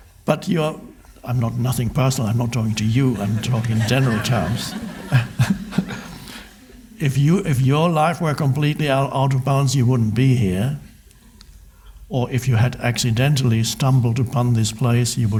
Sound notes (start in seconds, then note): 2.5 crowd laughs; 5.4 laughs